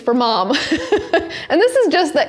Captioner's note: chuckles